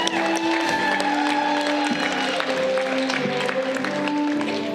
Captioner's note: audience clapping